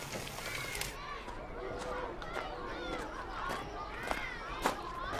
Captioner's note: kids chatter